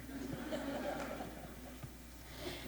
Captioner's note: laughter